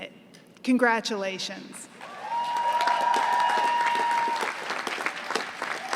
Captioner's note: applause